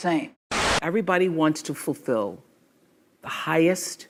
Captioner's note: static